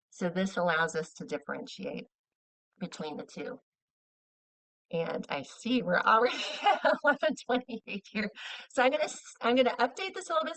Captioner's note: laughing